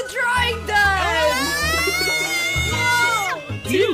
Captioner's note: screams